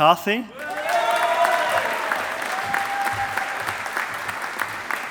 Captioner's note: audience applauding